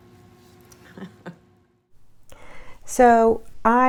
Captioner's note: laughing